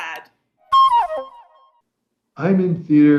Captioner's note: whistling